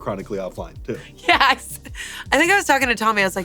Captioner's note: laughs